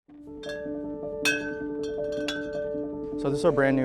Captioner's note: metal clanking